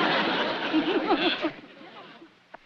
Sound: giggling

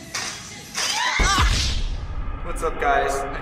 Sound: screams

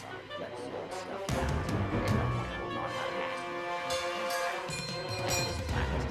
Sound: intense music; Little Willy Murmuring

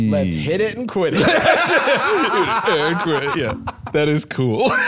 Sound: both laughing

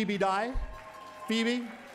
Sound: applause

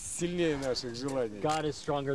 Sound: speaking russian

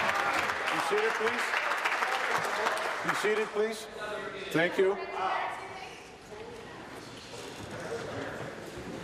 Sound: applause

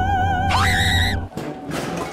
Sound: Korone screams!

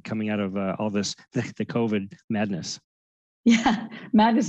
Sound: chuckles

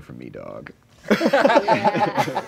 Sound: laughing

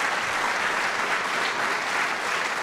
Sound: applause

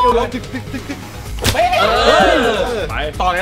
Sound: cheering

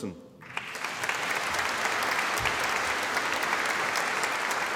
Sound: audience applauding

